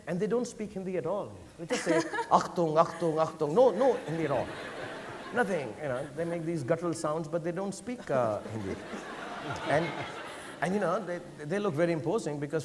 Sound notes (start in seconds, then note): 10.2 audience laughing